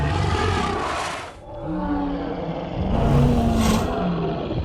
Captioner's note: dinosaurs roar